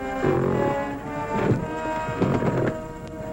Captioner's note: suspenseful music; grunting